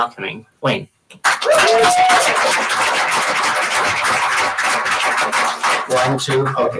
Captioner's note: applause